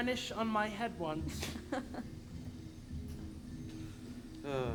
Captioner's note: Horatio laughs